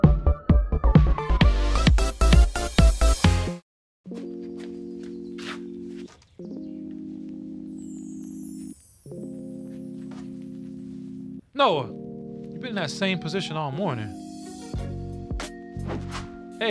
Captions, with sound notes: (somber music) (footsteps shuffling) - Noa? You've been in that same position all morning.